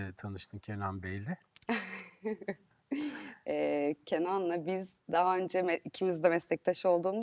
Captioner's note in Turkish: kahkaha